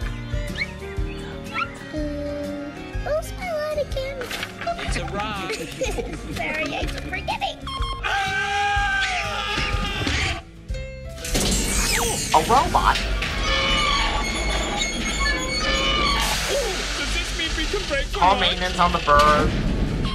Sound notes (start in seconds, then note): 1.1 whispers; 4.7 laugh; 8.0 screaming; 8.9 chirping, mechincal buzzing, creaking